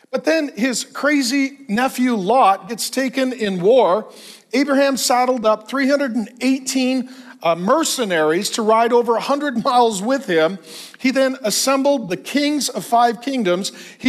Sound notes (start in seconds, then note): none